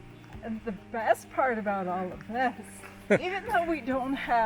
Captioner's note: chuckles